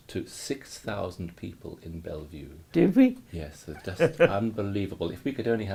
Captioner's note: laughs